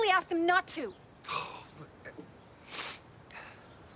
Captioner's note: sighs